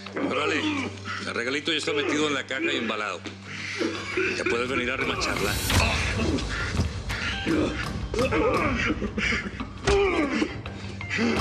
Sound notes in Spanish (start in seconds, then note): 5.1 golpes